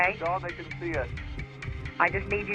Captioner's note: on phone